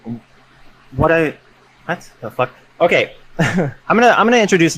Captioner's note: laughs